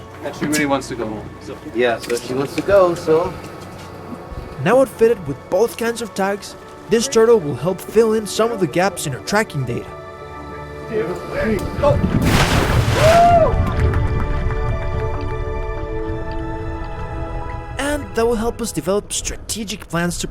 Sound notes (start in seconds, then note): 11.9 water splashing